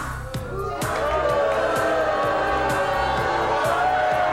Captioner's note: crowd booing